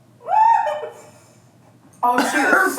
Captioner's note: laughs